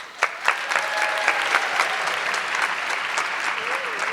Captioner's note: audience clapping